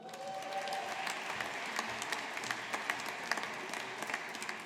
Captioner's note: audience applauding